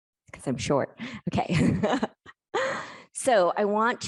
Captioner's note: laughing